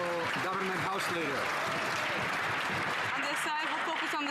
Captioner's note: some Applause